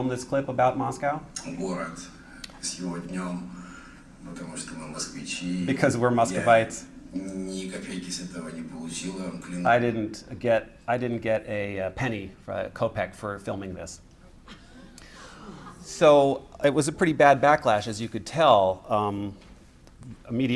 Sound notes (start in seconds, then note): 14.4 laughter